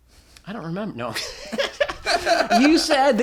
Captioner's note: laughter